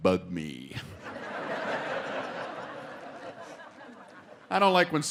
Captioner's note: audience laughing